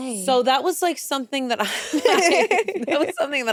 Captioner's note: laughs